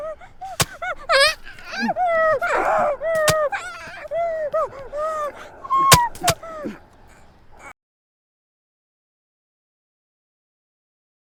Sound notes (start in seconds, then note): 0.0 documentarian shrieking; 0.4 knife stabbing